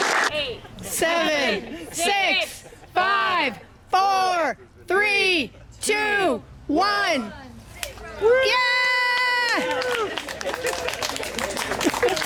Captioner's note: applause